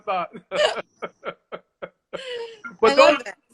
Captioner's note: laughter